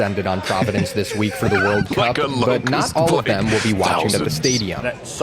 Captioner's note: laughing